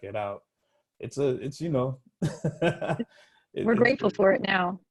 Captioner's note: laughing